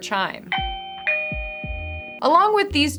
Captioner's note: doorbell chiming